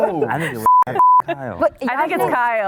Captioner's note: beep